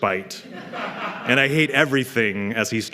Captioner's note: laughter